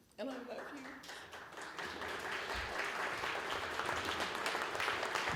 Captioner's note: applause